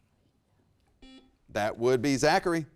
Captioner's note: buzzer rings